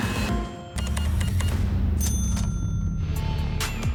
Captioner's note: cash register beeping, dings